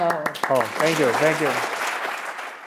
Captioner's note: applause